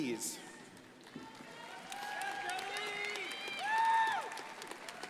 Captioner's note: crowd applauding